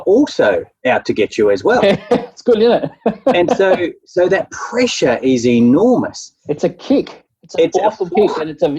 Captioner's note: laughing